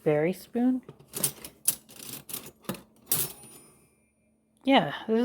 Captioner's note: sound of flatware shuffling around